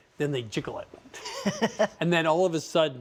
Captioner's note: laughs